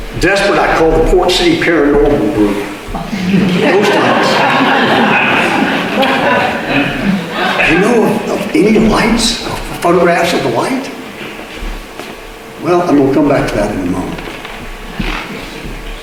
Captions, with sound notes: Desperate, I called the Port City Paranormal group. [Audience laughter] "You know of any lights, photographs of the light?" Well, we'll come back to that in a moment.